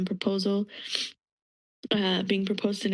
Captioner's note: sniff